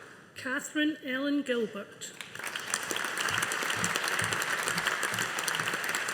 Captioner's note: audience applauding